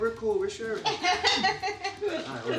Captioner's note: laughing